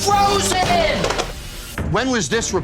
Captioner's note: clatter